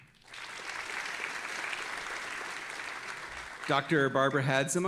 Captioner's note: audience applauding